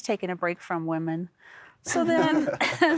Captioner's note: chuckling